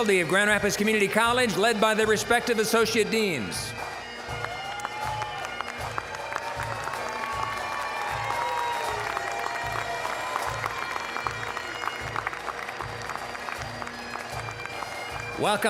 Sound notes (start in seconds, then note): 4.8 applause, cheering; 12.9 applause